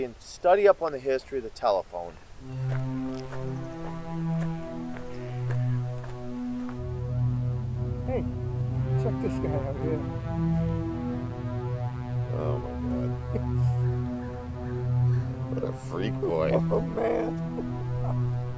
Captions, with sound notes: and study up on the history of the telephone. (mysterious music) - Hey, check this guy out here. - Oh my God (chuckles). What a freak boy. - Oh man (chuckles).